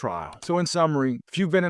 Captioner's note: screen clicking